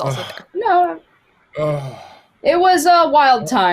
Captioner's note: sighs